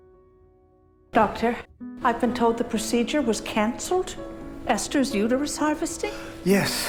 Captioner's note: voiceover